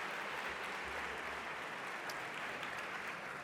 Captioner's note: audience applauding